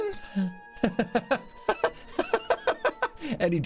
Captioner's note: laughter